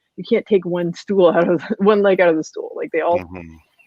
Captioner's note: laughs